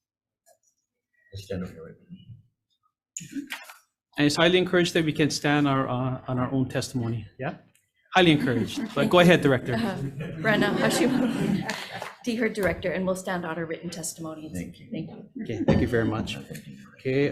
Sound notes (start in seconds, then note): 9.7 all laughing